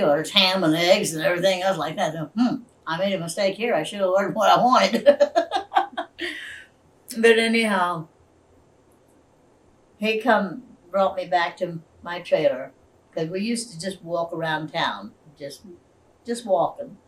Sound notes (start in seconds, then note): 7.6 laughs